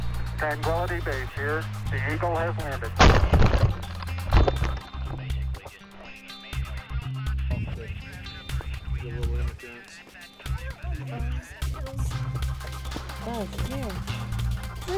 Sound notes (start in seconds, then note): 2.9 crunch of landing; 7.4 background radio noise